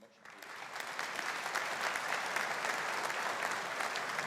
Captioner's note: audience applauding